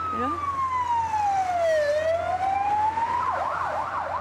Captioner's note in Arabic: صفارة الإنذار تصرخ